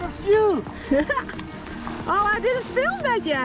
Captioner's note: laughs